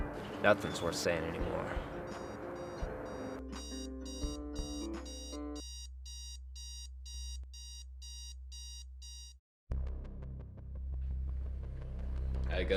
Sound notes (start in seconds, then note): 2.0 alarm beeping; 9.7 tense music